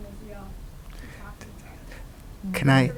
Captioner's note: voice muffled